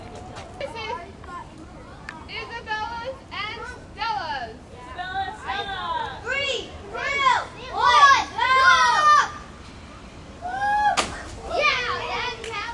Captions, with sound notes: This is... Isabella's and Stella's Isabella, Stella! Three. Two. One. Go! drop! Woo! [smack!] Yeah!